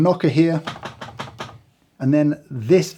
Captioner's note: loud knocking